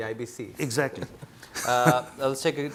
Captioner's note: laughs